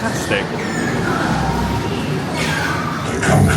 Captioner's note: dark sound effects blare